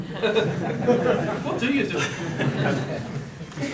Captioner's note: audience chuckles